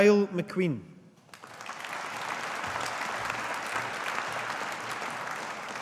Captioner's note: audience applauding